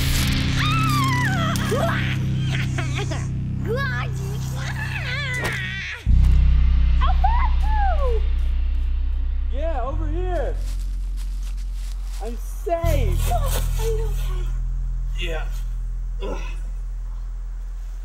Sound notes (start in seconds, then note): 0.5 screaming; 2.1 evil laughter